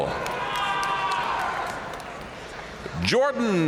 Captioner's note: audience cheering and applauding